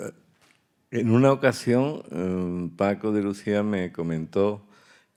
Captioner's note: speaking in Spanish